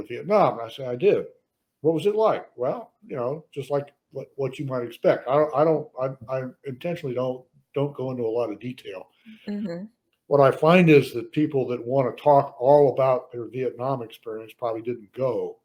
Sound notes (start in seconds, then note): none